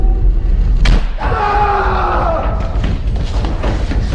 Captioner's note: screams